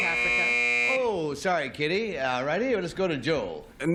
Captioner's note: buzz